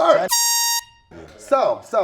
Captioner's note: airhorn blasts